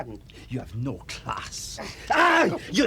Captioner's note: Mr. Martel bellowing